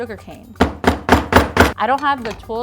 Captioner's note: banging on the table